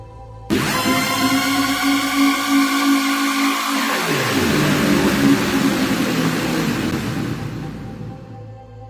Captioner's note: dark Fountain Sounds